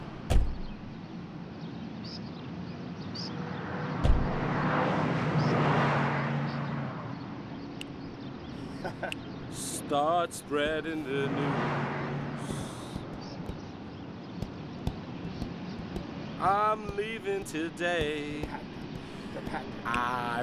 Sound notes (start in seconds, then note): 14.3 hands beating